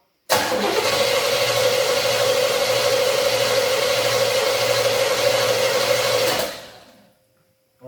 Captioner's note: engine cranks